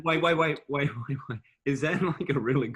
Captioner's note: laughing